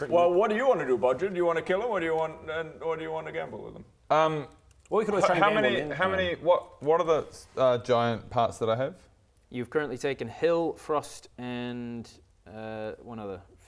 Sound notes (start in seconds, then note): none